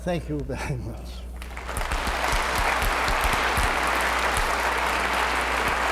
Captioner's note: applause